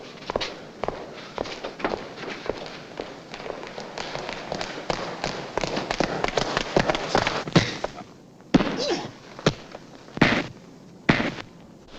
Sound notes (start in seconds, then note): 8.5 blows landing